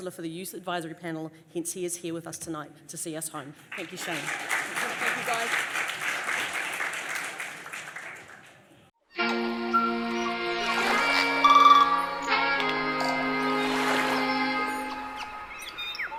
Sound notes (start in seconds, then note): 6.3 audience applauds; 9.4 dramatic music